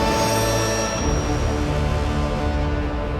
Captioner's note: none